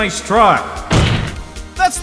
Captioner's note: slam